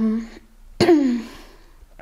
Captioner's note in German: räuspert sich